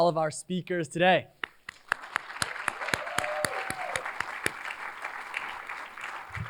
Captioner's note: cheers, applause